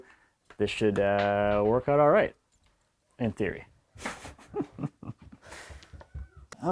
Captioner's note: chuckles